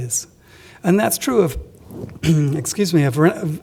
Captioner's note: coughs